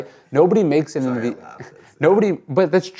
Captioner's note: laughs